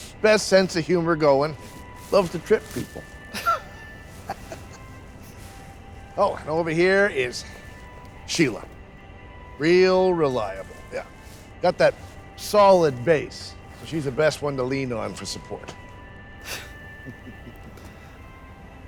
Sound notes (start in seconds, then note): 3.2 both chuckling